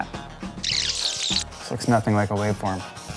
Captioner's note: tape squeaks